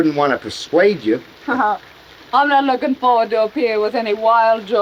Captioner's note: chuckles